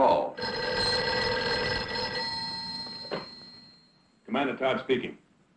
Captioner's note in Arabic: رنين الهاتف